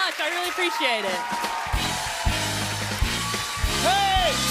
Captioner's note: cheers and applause